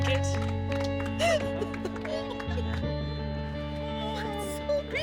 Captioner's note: sobbing